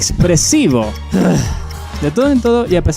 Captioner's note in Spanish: suspiro